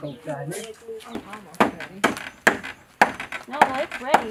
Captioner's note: chatter